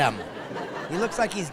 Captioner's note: laughing